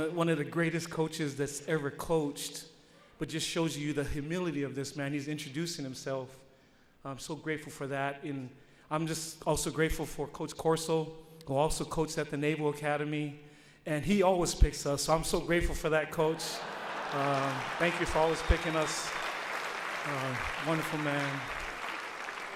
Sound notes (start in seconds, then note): 16.3 audience laughs; 19.5 audience applauds